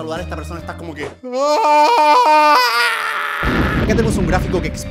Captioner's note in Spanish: gritando